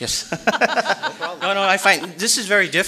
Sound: audience laughing

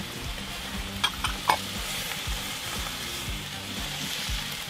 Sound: pan simmering

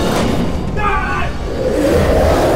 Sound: screaming

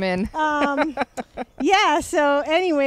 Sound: laughs

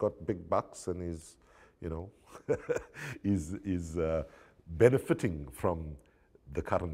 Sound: laughs

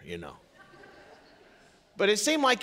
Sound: congregation laughing

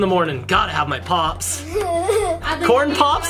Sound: laughing

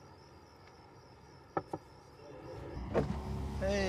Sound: hand taps

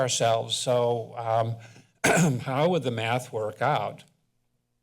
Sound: clears throat

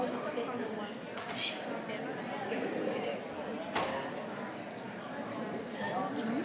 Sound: people continue chattering

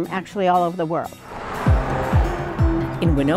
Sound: truck passing

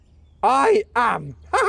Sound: chuckles

